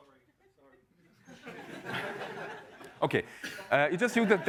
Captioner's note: laughter